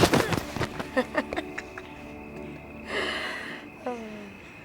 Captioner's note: laughs